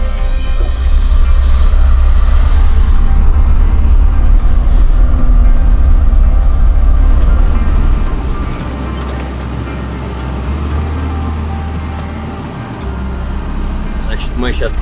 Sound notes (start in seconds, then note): 0.0 running engine